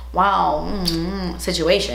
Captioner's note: she smooches